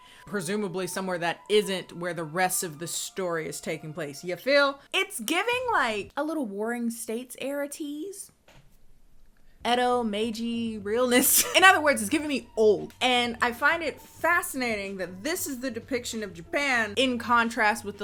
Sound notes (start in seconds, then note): 11.1 laughs